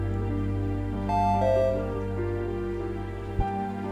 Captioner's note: computer chimes